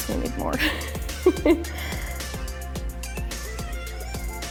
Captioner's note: laughs